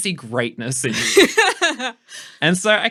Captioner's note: laughing